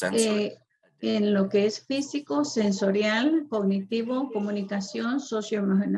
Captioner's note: woman speaks foreign language